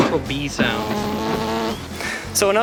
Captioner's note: buzzing continues